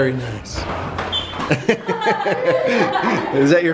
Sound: laughing

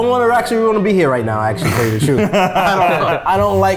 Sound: laugh

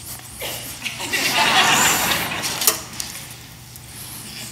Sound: laughter

